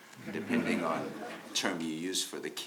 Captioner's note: audience laughs